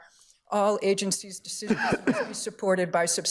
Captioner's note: justice coughing